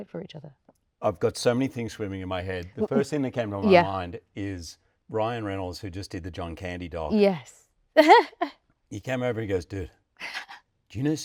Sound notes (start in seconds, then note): 8.0 chuckles